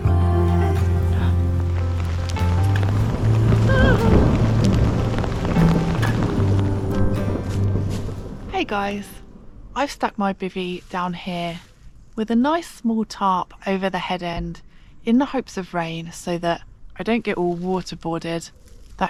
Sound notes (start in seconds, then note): 1.9 rain; 3.6 thunder